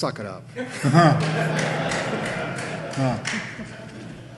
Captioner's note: audience laughing